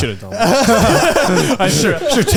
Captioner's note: all laughing